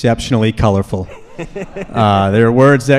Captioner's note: laughs